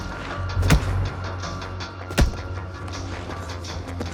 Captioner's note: fists whacking; dramatic music